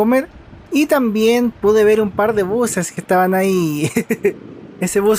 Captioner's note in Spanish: risas